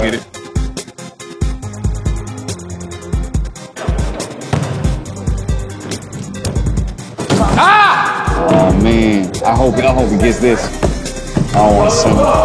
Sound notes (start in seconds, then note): 4.4 ball bouncing; 7.2 dunk sound; 11.8 cheers